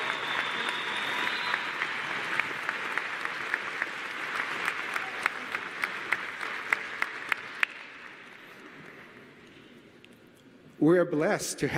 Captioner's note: applause